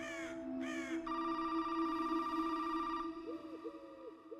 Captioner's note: birds squawking; phone rings